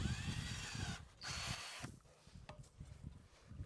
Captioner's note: drill whirring